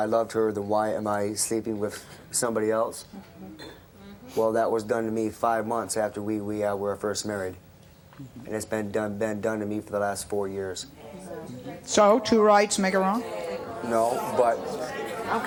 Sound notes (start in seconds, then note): 13.2 audience noise